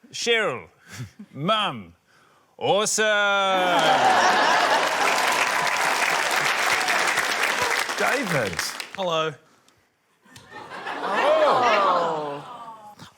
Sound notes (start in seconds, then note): 3.5 laughter, applause; 10.3 laughter